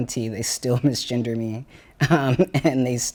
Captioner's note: chuckles